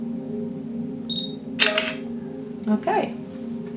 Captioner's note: phone camera beeps and snaps